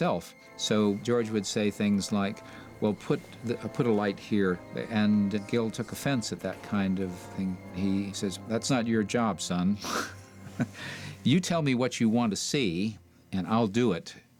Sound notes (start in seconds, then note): 10.4 laughs